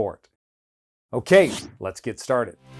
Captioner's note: loud whoosh